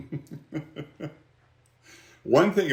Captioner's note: laughs; chuckles